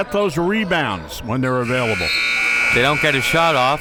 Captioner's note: buzzer blares